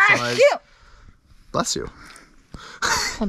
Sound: sneezes

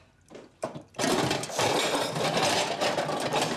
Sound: dishes clattering

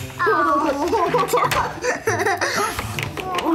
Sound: laughs

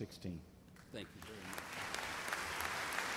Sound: voiceover; applause

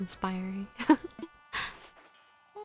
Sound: laugh

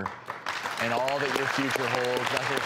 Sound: applause

